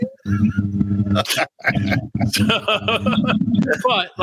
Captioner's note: laughs